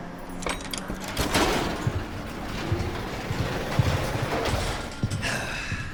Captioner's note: roller doors opening